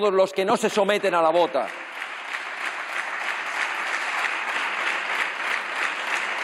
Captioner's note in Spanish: Aplausos